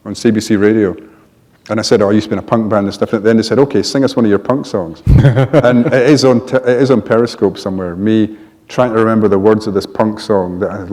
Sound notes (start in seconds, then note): 5.0 laughter